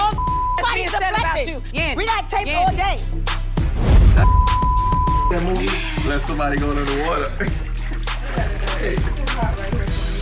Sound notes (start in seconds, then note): 0.1 beep; 3.5 dramatic music; 4.6 people chattering; 8.6 laughing